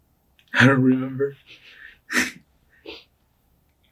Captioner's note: chuckles